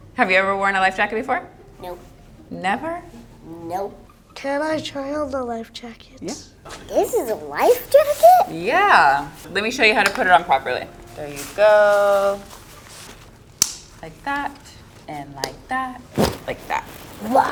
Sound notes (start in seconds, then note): 13.6 buckle clicks